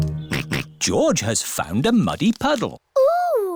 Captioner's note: all laugh; snorts